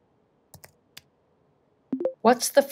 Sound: keyboard clicking; speech activation sound

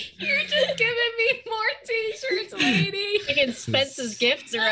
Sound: laughs

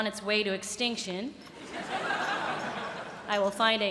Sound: laughter

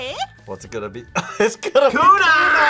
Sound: laughs

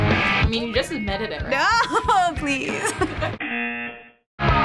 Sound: buzzer

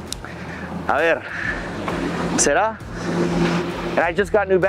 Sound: speaks Spanish

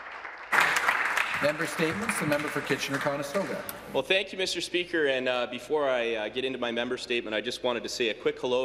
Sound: some Applause

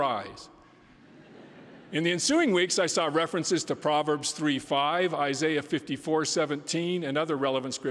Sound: laughter

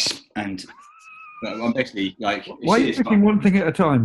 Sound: sniggering

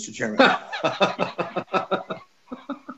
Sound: laughs

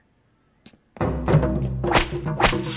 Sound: whip snaps

